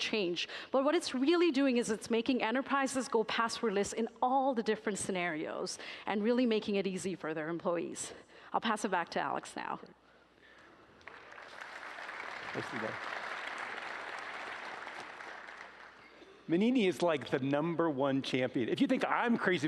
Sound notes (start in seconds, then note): 10.9 applause